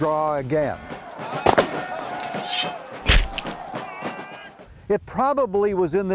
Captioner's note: soldiers screaming; guns firing